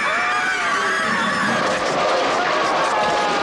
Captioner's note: laughing; screaming; metal clangs